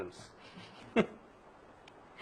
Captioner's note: laughs